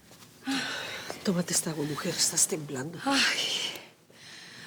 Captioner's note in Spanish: suspiros